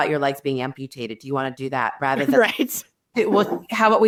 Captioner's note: chuckling